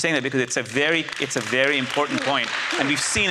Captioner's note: audience applauds